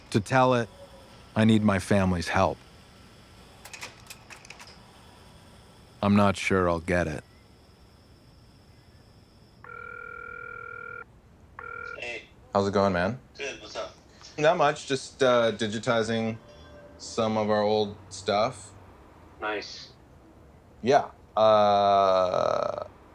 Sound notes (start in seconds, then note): 3.6 slides clicking; 9.4 cell phone ringing